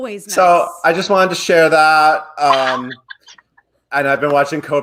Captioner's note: laughs